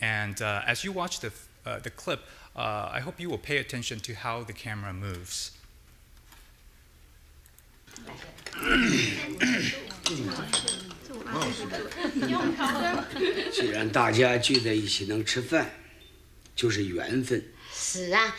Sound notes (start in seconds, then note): 8.4 clearing throat; 10.1 glass chinking; 13.6 speaking in foreign language